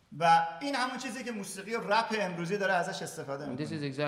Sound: speaking in farsi

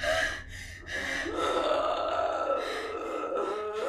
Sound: desperate, terrified panting; guttural noises

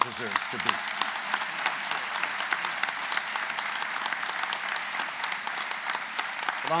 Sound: applause

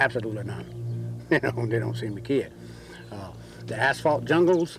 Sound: laughs

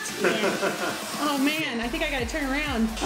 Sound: laughing

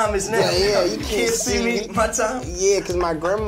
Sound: laughs

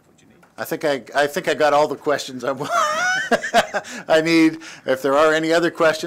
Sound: laughter

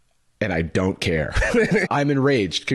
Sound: laughs

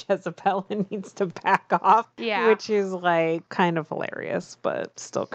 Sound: laughs

